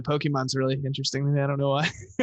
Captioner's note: laughs